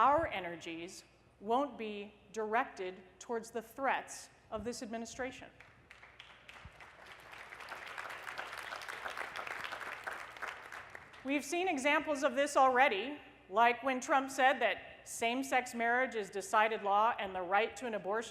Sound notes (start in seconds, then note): 5.6 applause